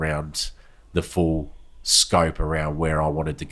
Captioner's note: none